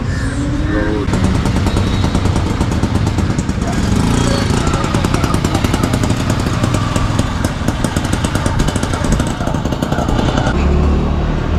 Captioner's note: rickshaw engine